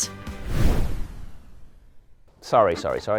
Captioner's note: air whooshes